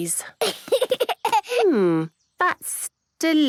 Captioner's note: giggling